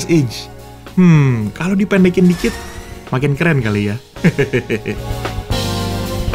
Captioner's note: laughing